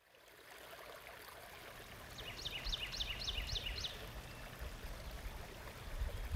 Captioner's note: birds chirp